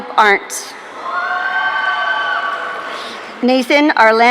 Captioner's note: audience cheering